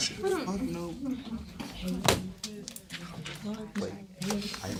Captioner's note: students murmur; student murmurs